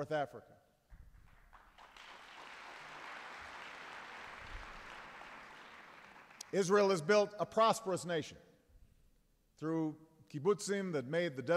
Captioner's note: applause